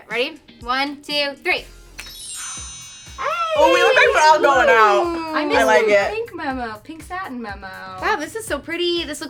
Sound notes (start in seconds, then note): 2.1 shimmering bells